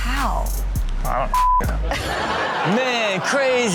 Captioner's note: beep